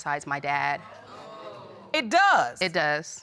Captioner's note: audience gasps